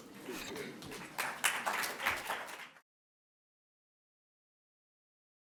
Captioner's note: applause